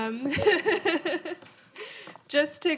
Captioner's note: laughing